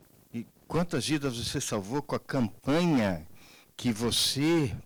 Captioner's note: man speaking Portuguese